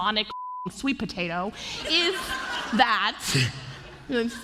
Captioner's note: laughter